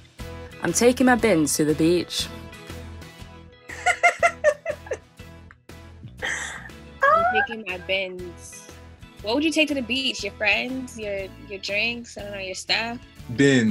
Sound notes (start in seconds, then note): 3.7 laughter